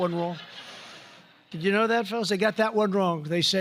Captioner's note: laughter